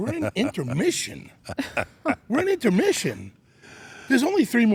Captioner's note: laugh